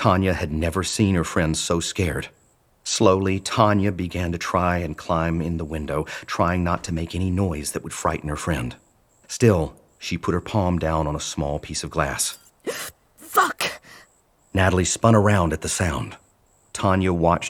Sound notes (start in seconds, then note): 12.2 wincing